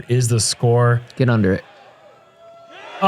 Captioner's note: applause